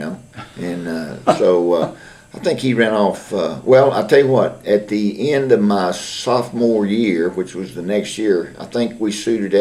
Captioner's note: laughter